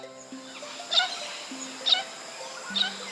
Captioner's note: bird sound